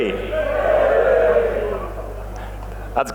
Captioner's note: shouting